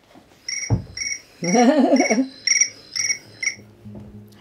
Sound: phone ringing

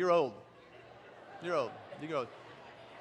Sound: congregation laughs

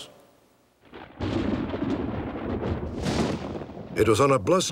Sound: thunder

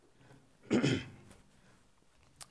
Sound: clears throat

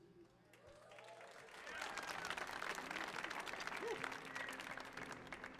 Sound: audience cheering

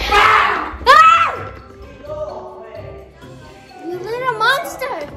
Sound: screaming

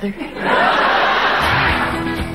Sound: audience laughing

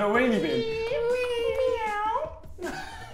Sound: meows; laughing

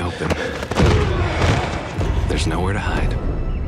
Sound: grunting

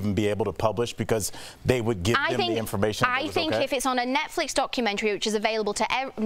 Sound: laughter

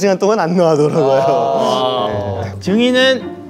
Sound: everyone sighs

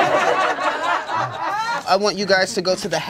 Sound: laughter

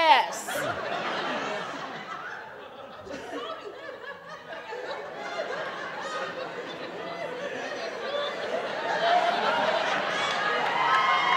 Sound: laughter

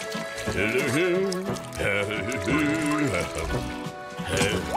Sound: humming

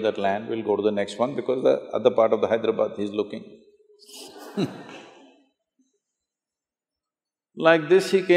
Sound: laughter

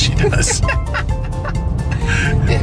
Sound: laughter

